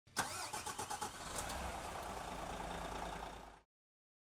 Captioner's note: truck revving